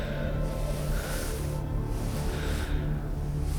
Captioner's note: man panting